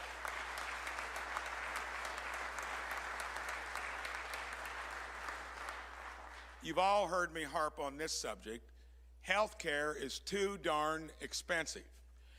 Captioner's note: applause